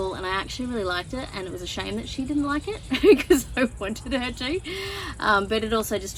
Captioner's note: laughing